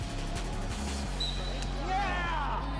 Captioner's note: whistle blowing